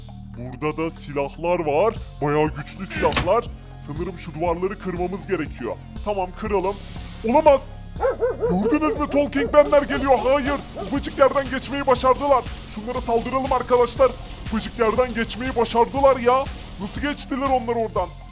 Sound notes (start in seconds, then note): 8.0 barking sound